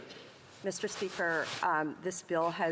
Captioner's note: speaking French